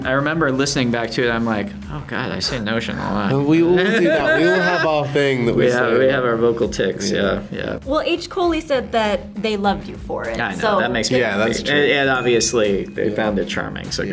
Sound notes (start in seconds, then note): 3.0 Rian laughs